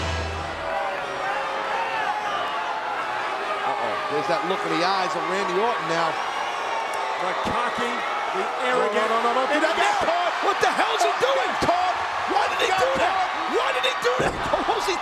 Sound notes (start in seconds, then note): 1.0 audience cheers